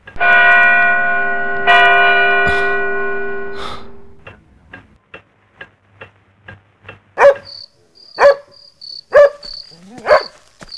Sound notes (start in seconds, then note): 0.0 clock strikes two; 9.0 dog barks